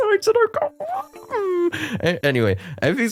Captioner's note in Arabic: ضوضاء الاستثارة